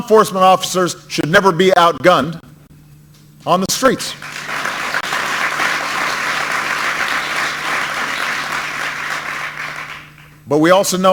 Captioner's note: applause